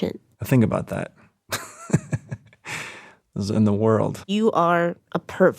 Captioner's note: laughs